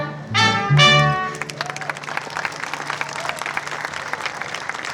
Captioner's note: applause